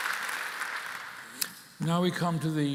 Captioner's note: applause